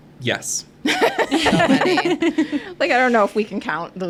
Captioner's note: group laughing